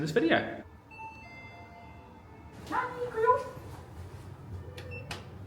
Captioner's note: elevator dinging